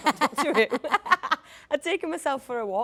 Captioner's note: Jodie laughs